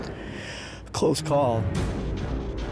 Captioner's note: inhales